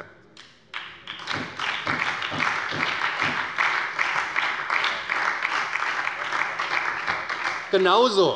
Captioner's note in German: Beifall bei der SPD